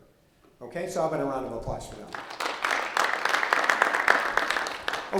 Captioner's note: audience applauding